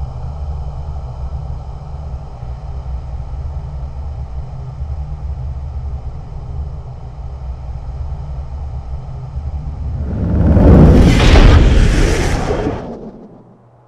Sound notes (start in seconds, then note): 11.2 heavy door closing